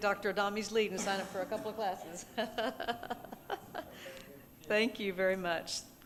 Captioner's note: laughing